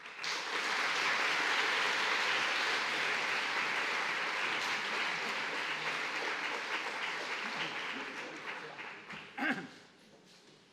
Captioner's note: applause